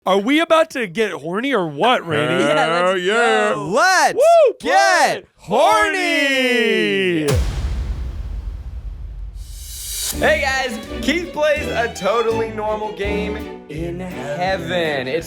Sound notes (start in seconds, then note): 7.2 dramatic boom